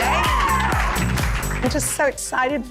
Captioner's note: cheerleaders cheering